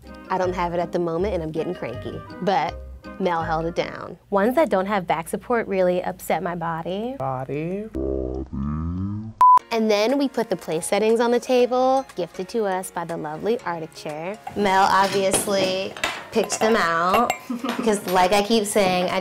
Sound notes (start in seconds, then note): 9.4 beep; 16.9 laughs